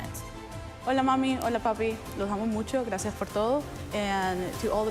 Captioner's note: student speaks in Spanish